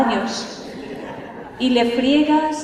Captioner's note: laughter